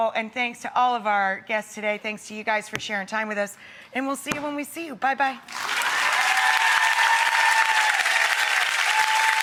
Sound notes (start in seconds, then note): 5.5 audience applause